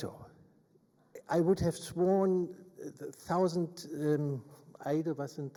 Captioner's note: speaks in German